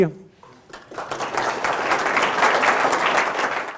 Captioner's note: applause